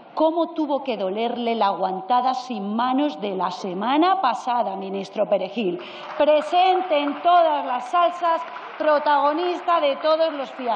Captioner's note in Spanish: aplausos